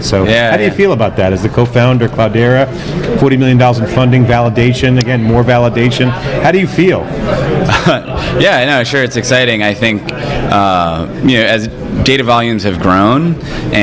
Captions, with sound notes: So how do you feel about that as the co-founder of Cloudera? $40 million in funding, validation, again, more validation. How do you feel? >> (laughs) Yeah, no, sure, it's exciting. I think as data volumes have grown